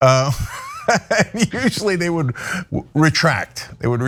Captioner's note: laugh